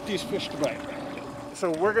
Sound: winch motor running

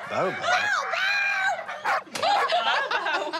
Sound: dog barking

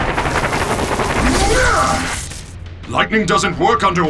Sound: groans; zapping

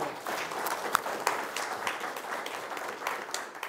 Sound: applause

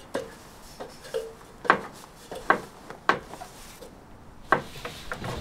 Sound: footsteps and clanking

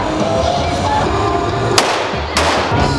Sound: shoot gun noise

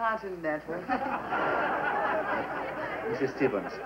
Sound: laughter

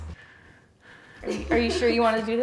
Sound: laughing

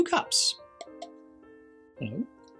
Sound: tapping

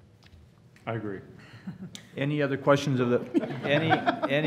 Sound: laughter

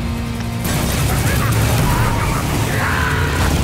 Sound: laughing

